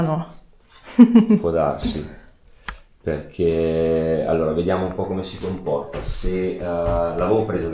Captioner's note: laughter